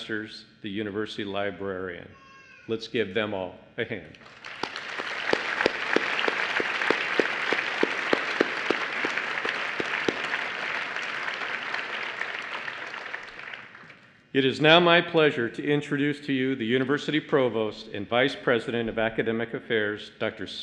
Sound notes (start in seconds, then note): 9.2 applause